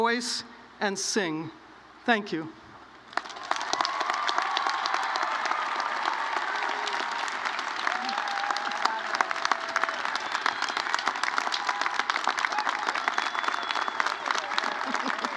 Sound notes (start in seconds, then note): 4.1 applause